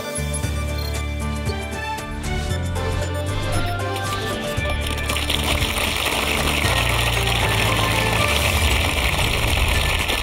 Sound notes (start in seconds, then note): 6.2 applause